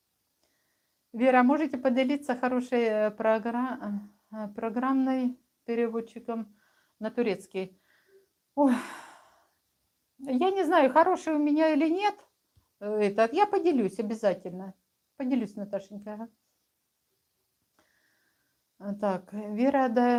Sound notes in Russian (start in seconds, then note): 9.3 вздыхает